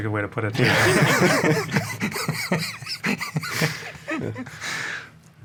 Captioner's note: all speakers laugh